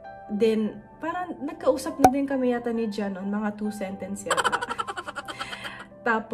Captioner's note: hahaha!